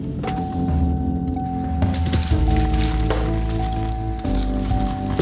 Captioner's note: car beeping